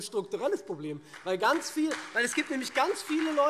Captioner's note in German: Beifall SPD und CDU